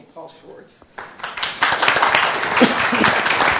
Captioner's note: applause